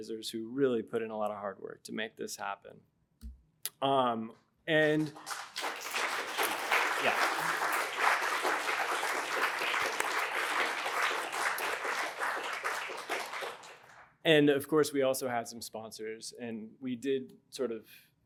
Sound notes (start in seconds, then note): 4.9 applause